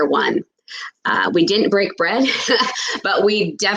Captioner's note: laughs